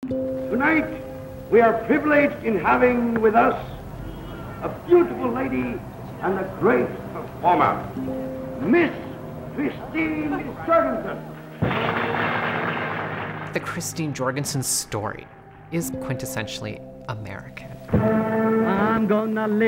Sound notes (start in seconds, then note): 11.6 applause